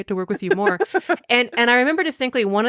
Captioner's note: laughing